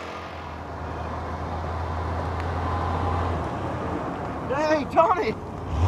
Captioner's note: truck engine humming